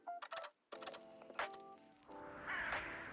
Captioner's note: birds cawing